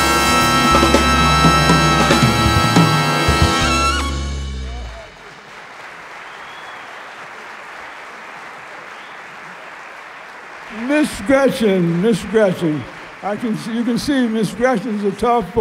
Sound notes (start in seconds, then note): 4.7 applause